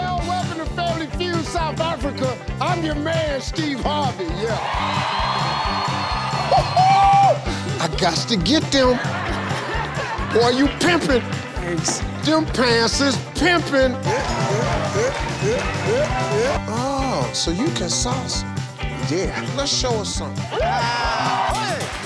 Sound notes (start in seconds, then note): 0.0 crowd; 4.3 audience cheers